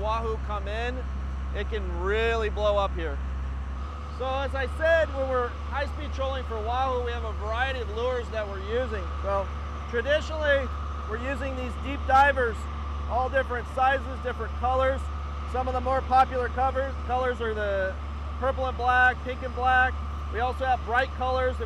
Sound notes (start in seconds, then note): 4.1 boat engine running